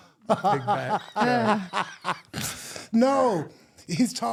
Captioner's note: laughing